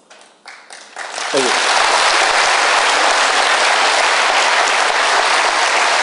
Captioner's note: applause